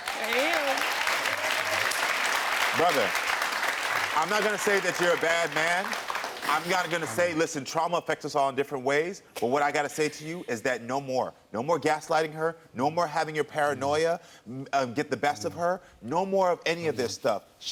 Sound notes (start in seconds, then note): 0.0 audience applauds